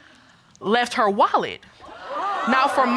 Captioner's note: audience gasp